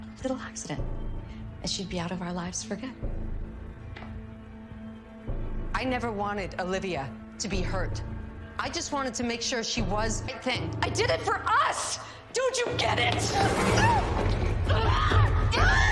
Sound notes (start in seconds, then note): 12.2 gasping; 12.9 screaming